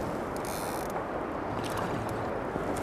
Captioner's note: splash